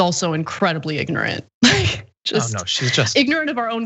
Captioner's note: laugh